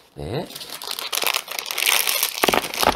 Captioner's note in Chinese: 沙沙声